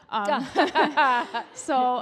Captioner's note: audience laughs